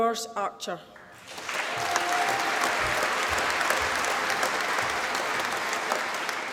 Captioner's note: applause